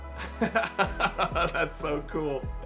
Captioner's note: laughs